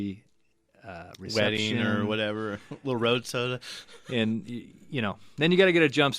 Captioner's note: laughs